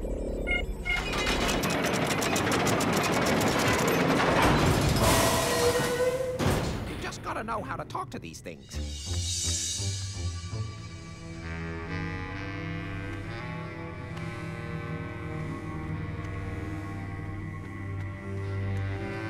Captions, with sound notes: (DOOR MECHANISMS GRIND AND CLANK AS DOOR OPENS) YOU JUST GOTTA KNOW HOW TO TALK TO THESE THINGS.